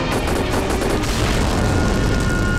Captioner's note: Explosion